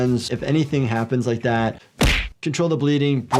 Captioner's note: hands thudding